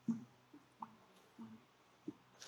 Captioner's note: silence